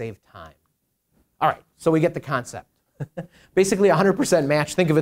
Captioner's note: chuckles